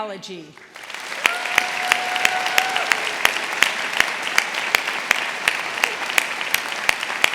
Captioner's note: audience applauding; audience cheering